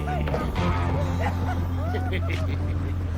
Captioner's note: men laughing